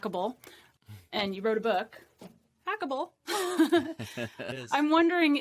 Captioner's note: laughs